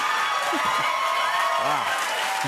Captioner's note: cheers and applause